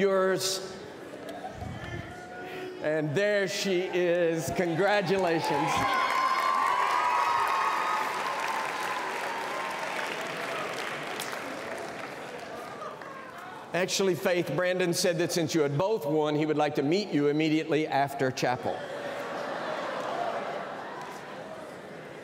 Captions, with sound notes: FAITH, I'LL BRING YOU YOURS. AND, THERE SHE IS. CONGRATULATIONS. [CHEERS AND APPLAUSE] ACTUALLY, FAITH, BRANDON SAID SINCE YOU BOTH WON,